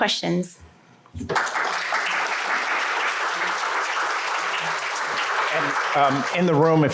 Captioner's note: applause